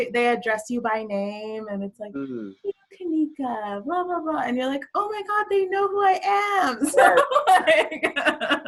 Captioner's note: laughs